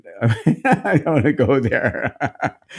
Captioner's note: laughing